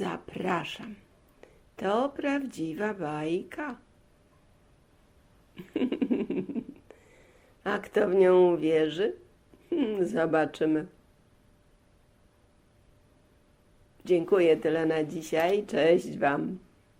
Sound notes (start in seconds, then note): 5.6 laughter